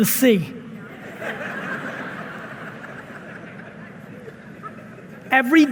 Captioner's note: audience laughing